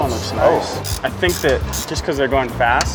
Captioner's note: ratcheting